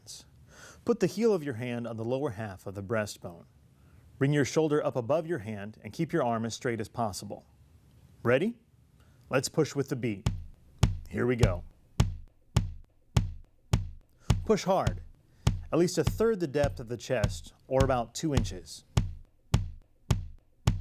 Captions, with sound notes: Put the heel of your hand on the lower half of the breastbone. Bring your shoulder up above your hand and keep your arm as straight as possible. Ready? Let's push with the beat. [ simulated heart beat sound ] Here we go. Push hard, at least 1/3 the depth of the chest, or about 2 inches.